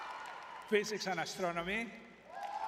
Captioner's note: audience cheering